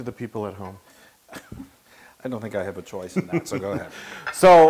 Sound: laugh

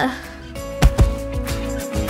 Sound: thud!

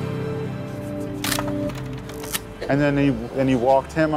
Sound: camera shutter clicks

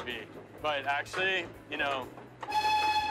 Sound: train whistle blows

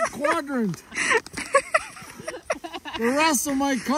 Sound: laughter

